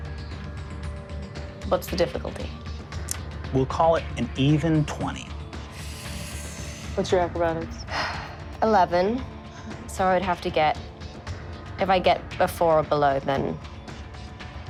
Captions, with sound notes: (dramatic music) - What's the difficulty? - We'll call it an even 20. - What's your acrobatics? - (sighs) 11. So I'd have to get, if I get a 4 or below then,